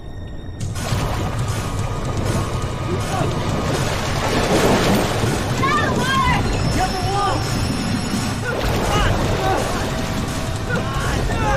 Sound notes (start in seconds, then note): 0.2 scary music; 8.4 struggling shouts